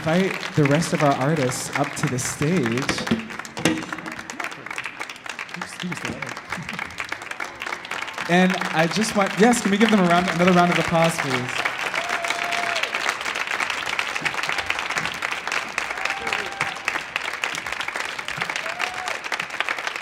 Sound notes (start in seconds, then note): 0.1 audience clapping; 2.7 microphone clinking; 12.5 audience clapping